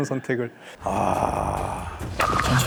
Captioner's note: exclaiming